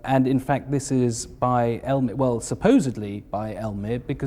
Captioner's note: none